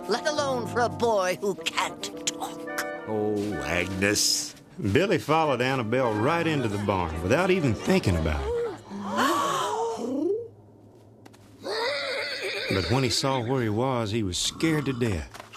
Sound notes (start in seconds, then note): 8.4 animals gasp; 11.6 whinnying